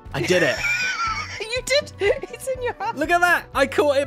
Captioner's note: laughs